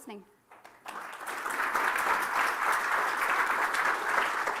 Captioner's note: applause